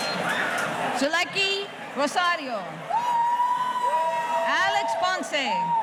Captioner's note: audience cheering